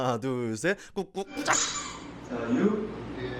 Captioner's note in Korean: 삑 효과음